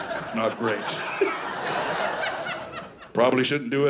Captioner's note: audience laughing